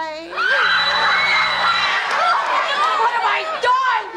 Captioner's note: audience screams; phone rings